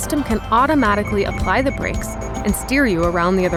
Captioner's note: beeping; tire sounds